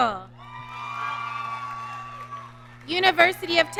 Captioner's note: audience cheering